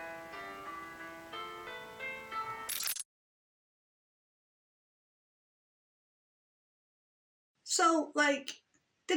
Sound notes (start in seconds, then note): 2.7 audio glitches